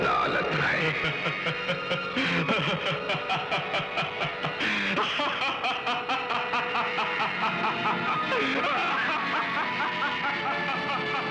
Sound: laughs

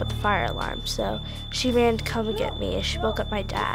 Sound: smoke detectors beep

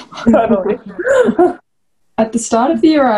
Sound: all laugh

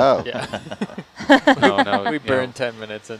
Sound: all laughing

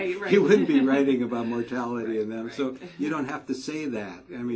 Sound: laugh

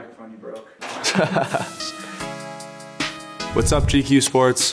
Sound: Connor laughing

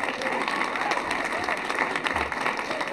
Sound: applause

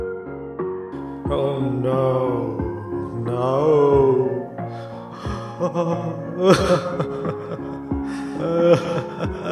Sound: crying

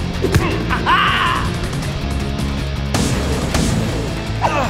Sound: Spenza laughs; Shakes grunting

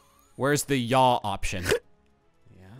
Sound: snorting

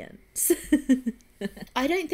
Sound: laughs

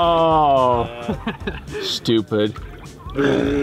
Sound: laughing

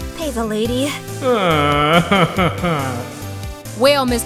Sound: sobbing

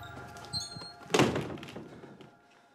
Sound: door slams

